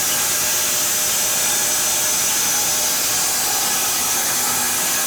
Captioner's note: sawing machine whirring continues